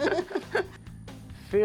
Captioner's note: laughter